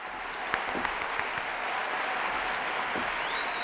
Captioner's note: applause